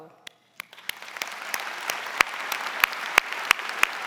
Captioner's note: audience applauding